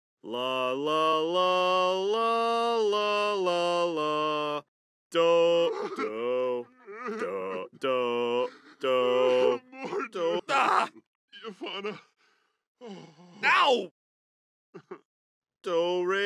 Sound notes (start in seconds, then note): 5.2 sobs harder